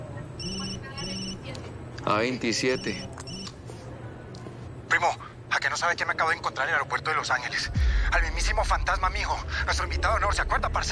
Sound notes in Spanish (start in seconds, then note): 2.6 Suena el celular